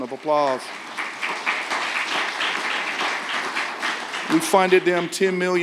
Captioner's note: audience applauding